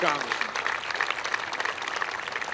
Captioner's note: applause